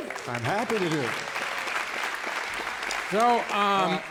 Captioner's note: applause